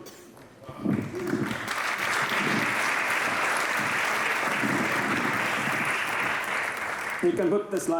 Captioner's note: applause